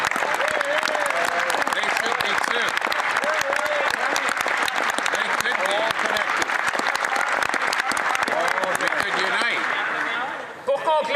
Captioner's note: some Applause